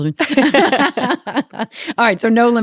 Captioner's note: laughter